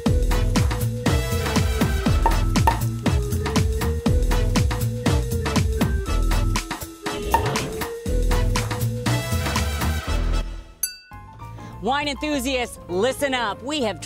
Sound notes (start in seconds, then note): 2.2 corks popping; 10.8 glasses clinking